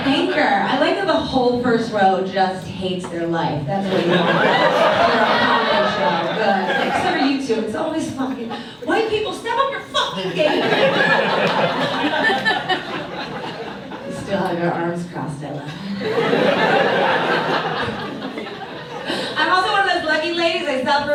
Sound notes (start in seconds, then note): 3.9 audience cheers; 10.2 audience laughs; 15.7 audience laughs